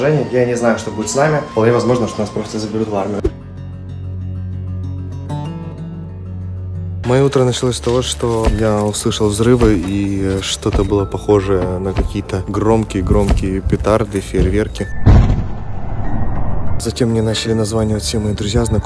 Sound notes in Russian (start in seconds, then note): 14.9 Звуки взрыва